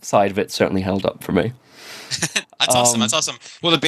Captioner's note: laughs